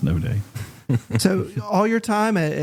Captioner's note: chuckles